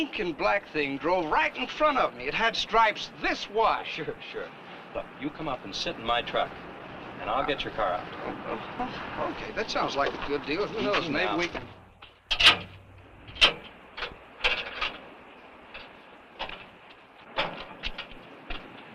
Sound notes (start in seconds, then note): 12.2 chain clanking